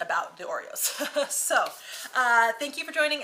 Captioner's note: chuckling